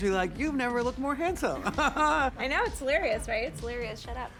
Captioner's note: chuckles